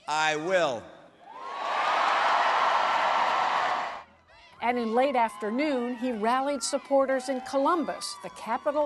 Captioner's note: cheering and applause